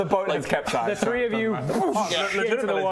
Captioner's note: bwhoosh